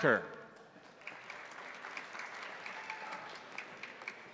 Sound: crowd applauding

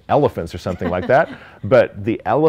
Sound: chuckling

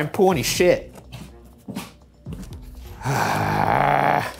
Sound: ominous music continues; footsteps treading; groaning

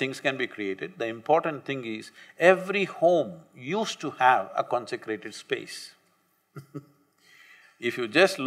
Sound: laughs

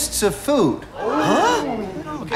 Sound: Tommies exclaim

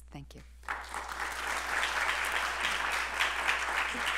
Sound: applause

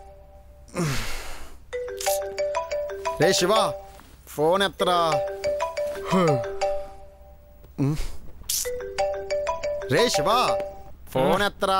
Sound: mobile phone ringing

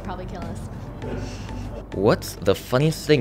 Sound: snicker

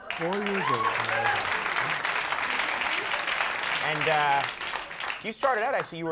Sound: audience claps and cheers

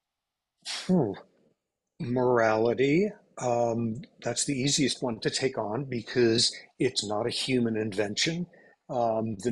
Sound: exhales

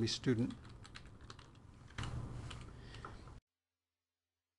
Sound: typing

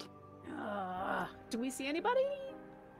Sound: groans

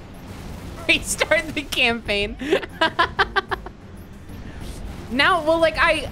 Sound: laughing

